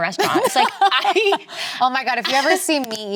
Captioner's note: Elizabeth laughs